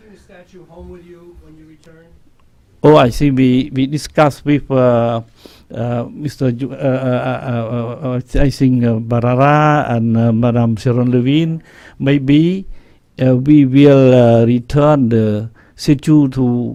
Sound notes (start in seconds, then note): 7.7 stutters